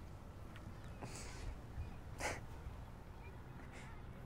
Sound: laughing

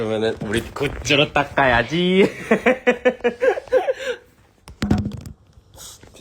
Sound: laughs

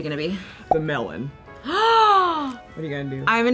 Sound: gasps

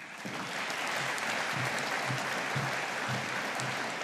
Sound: audience applauding

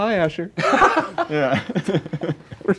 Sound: laughing

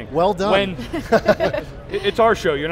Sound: laughing

